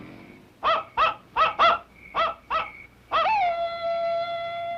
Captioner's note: howling